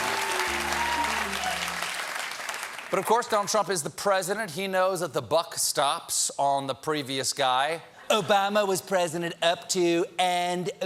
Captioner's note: applause